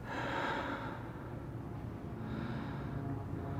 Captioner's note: man breathing